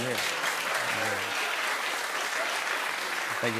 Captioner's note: cheers and applause